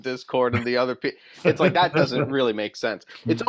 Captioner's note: laughter